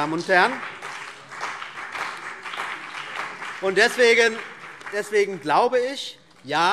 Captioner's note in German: Beifall CDU und BÜNDNIS 90/DIE GRÜNEN